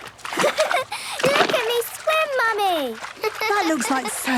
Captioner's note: giggles